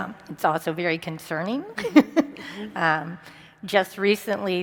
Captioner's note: laughs